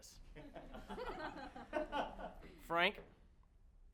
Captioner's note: sparse laughter